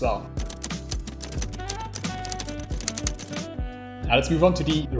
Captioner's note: keys clacking